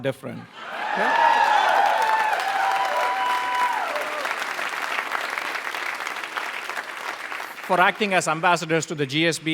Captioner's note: applause